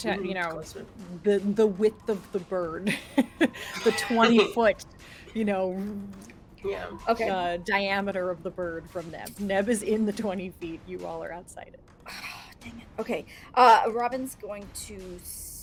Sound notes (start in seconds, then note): 2.9 laughs; 12.5 sighs